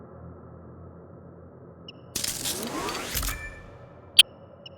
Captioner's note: glass shattering